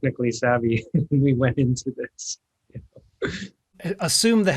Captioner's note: chuckles